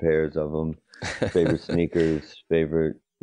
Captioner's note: laughs